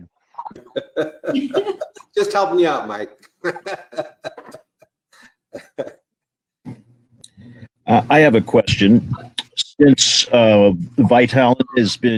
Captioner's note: laughs